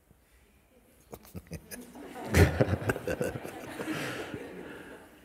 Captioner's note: laughter